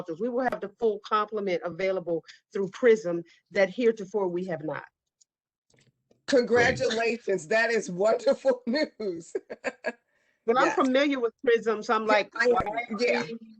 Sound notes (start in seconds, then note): 9.2 laughter